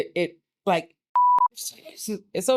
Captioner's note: beep